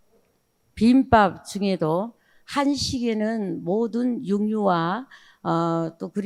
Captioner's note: speaking in foreign language